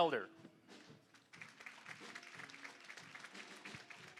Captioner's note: applause